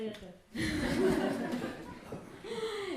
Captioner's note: audience laugh